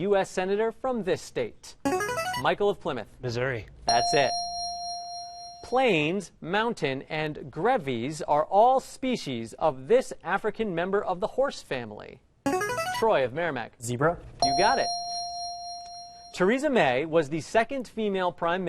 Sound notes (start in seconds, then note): 1.8 ringer; 3.9 ding; 12.4 ringer; 14.4 ding